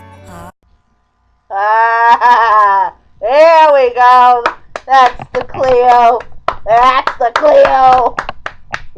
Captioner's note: laughing; clapping